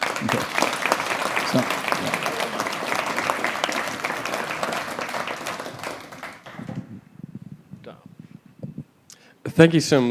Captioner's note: applause